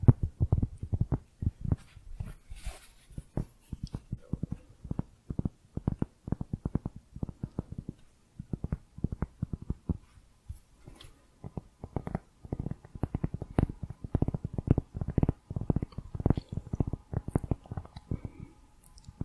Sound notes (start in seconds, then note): 1.5 tapping on cork